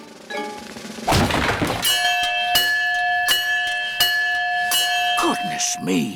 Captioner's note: thud; bell rings continuously